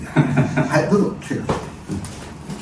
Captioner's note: laughs